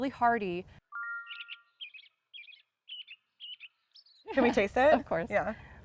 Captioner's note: birds chirping